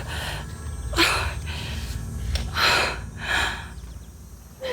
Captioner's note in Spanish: Sollozos